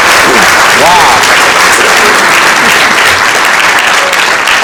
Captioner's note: applause